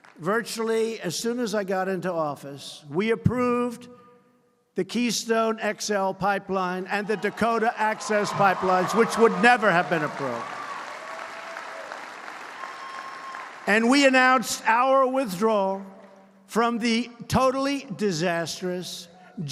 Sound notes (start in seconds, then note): 10.5 applause